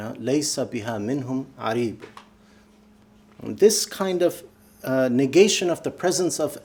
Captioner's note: speaking arabic